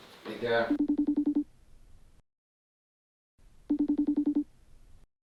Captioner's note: phone ringing